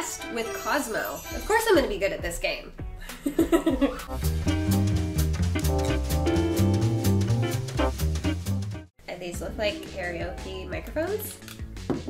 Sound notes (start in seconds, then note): 0.0 jazz music; 3.1 laughs; 3.8 jazz music; 11.8 taps table